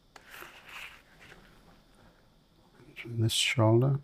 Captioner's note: silence